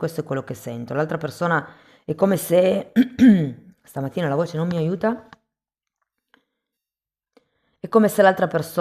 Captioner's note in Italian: schiarire la voce